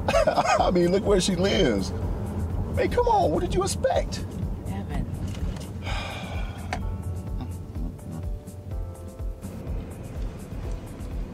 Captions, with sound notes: (laughing) I mean look where she lives. Babe come, what did you expect? - Evan. (Evan scoffs) (rhythmic music)